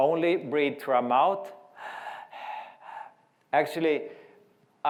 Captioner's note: breathing